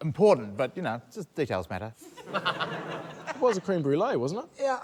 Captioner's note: laughter